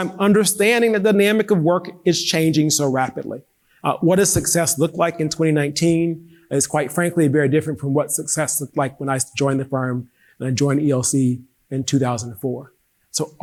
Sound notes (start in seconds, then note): none